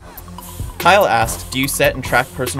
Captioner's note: voiceover